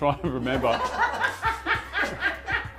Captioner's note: laughs